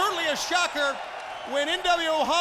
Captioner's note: crowd chatter